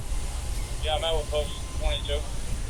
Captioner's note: radio chatter